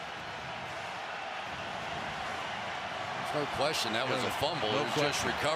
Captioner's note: cheers